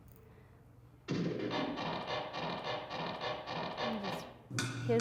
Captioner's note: rhythmic creaking